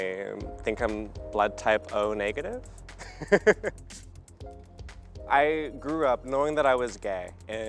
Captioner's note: laughs